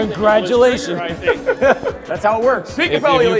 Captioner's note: laughs